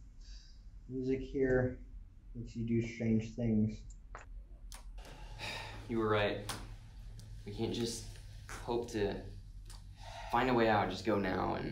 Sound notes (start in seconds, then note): 5.1 sigh